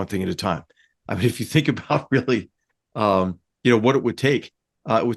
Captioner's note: laugh